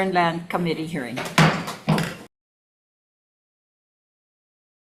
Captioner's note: gavel taps